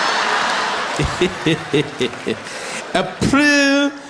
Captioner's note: Zuma lauging